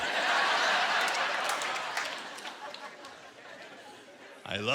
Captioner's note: laughter